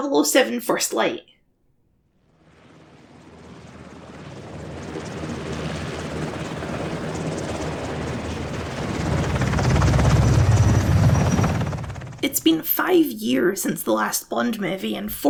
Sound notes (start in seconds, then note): 2.1 helicopter noises